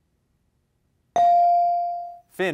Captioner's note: bell rings